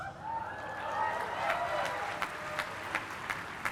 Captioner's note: cheering and applause